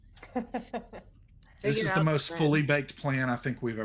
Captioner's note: person chuckling